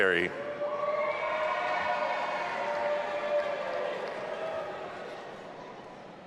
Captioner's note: audience applauding and cheering